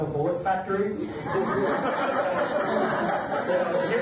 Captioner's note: audience laughs; laughter drowns out speaker